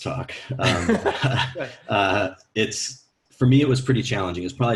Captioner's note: laughing